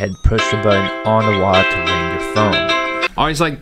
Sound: phone rings

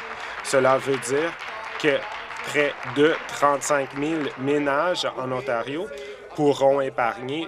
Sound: applause

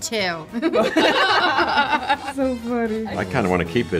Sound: laughter

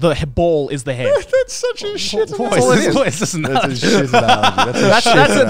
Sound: laughing

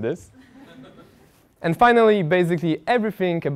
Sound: laugh

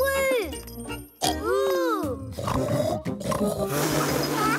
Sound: snorting

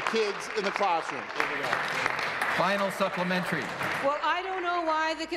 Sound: applause

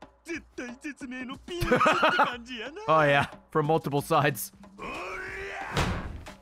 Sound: laughs

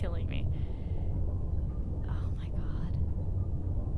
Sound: whispers

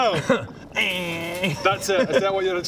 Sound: eeerrrggggggg

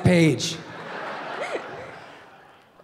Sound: audience laughing

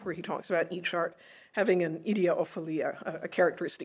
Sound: speaking foreign language

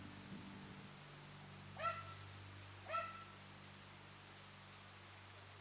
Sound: dog barking

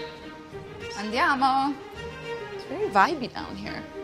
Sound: speaks in foreign language

